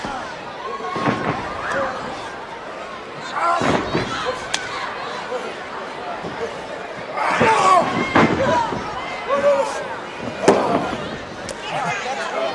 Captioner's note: crowd chatter